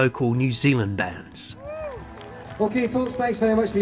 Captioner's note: cheering